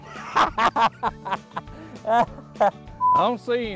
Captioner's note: laughter